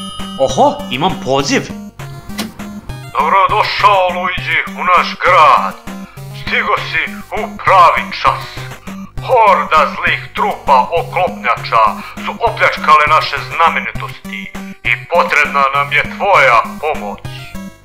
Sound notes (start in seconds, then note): 3.0 mayor, speaks over telephone